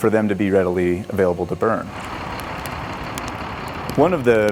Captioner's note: engine idling